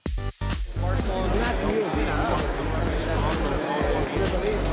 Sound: upbeat music; crowd chattering

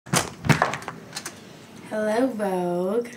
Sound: door opening

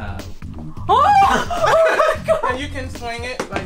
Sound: screams

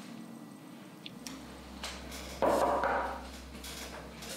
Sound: visitor knocking

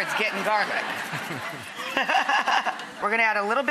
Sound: laughing

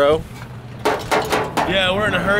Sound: metal clanking

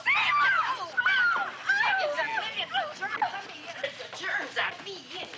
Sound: squealing

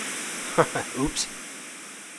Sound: laughs

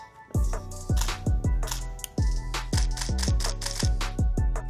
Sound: camera shuttering

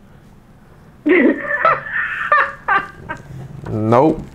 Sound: laughing

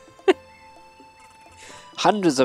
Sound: laughs

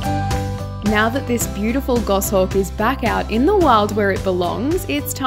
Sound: voiceover

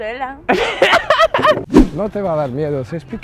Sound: laughs

